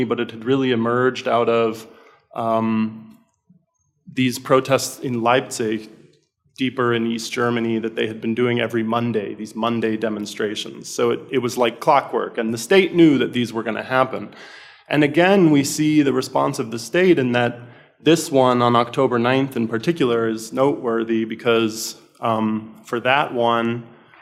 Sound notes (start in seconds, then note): none